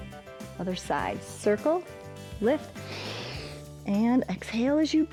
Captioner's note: inhales